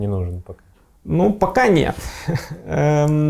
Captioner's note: laughing